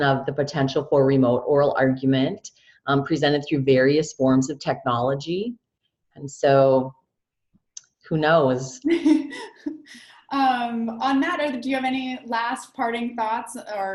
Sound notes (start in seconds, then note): 8.9 laughing